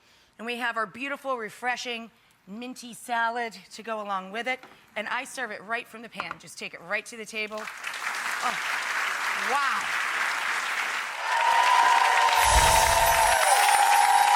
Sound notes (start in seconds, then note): 7.6 crowd applauds; 10.9 crowd cheering